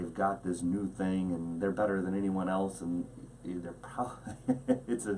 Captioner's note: laughs